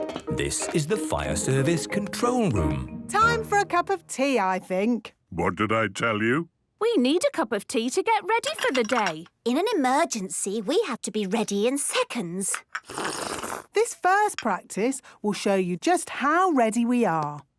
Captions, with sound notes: - This is the Fire Service control room. - Time for a cup of tea, I think! - What did I tell you! - We need a cup of tea to get ready for the day. - In an emergency, we have to be ready in seconds! - (slurping) - This first practice will show you just how ready we are!